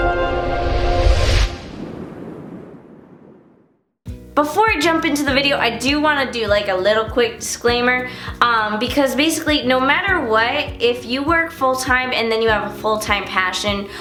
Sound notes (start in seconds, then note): 0.0 gentle swoosh